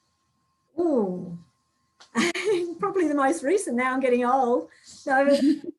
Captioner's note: chuckling